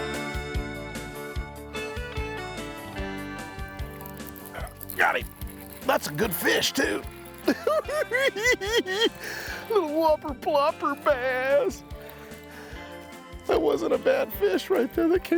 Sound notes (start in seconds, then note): 7.5 cackles